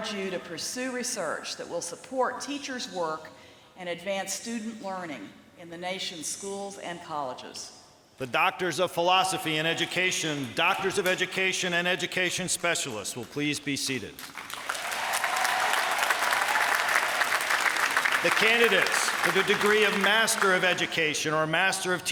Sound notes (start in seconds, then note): 14.1 applause